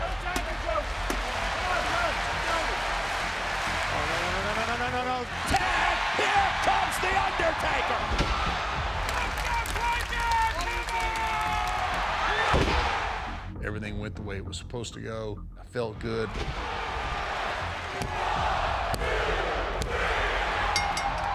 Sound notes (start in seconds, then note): 9.5 audience members cheering; 18.6 crowd roaring